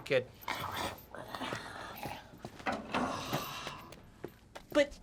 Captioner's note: zombie walter grumbling